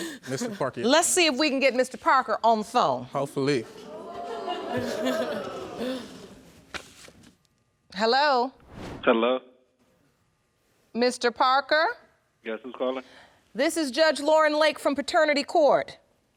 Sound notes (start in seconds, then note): 3.8 audience exclaiming